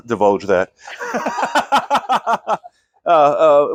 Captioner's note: laughing